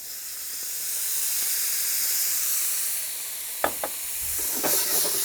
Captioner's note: pan sizzles